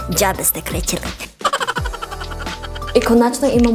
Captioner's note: evil hamster laugh